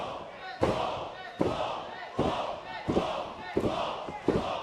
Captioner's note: fans chanting